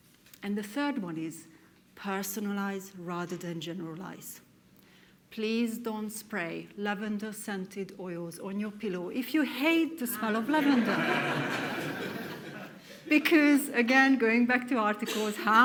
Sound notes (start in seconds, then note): 10.4 audience laughs